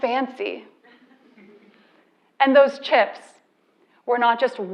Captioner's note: laugh